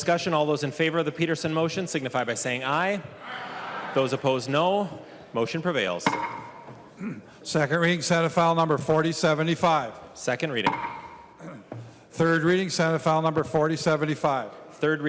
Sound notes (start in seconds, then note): 7.2 chorus of ayes; 10.5 gavel